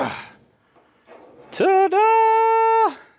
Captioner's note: grunts